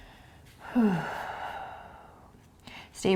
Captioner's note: sighing